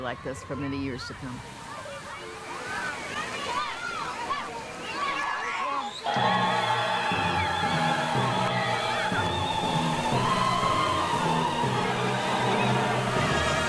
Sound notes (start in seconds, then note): 2.9 children play; 8.2 chorus sings